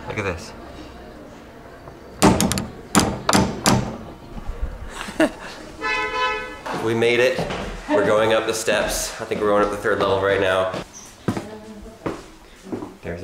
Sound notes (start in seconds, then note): 2.2 knocks; 5.8 horn honking